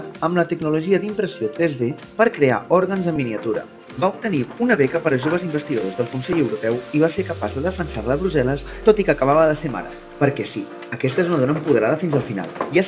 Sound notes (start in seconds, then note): none